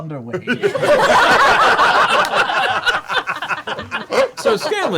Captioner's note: laughter